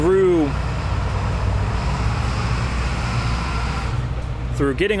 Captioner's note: loud bus noises